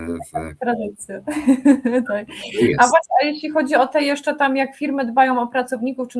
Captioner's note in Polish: śmiech